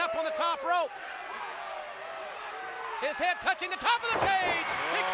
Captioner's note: applause